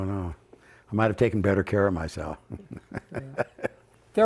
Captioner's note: laughs